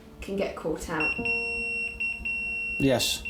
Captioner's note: pager beeping